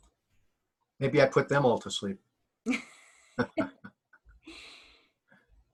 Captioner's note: both laugh